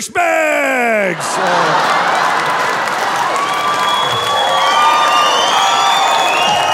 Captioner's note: audience laughing and cheering